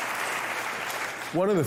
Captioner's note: applause